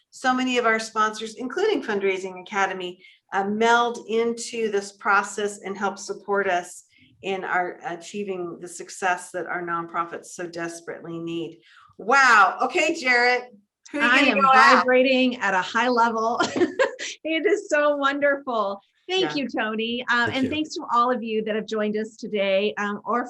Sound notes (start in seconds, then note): 16.6 laughs